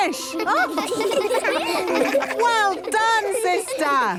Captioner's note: children laughing